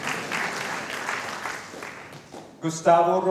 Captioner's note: applause